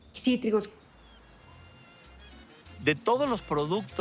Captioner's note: insects buzzing; trumpets playing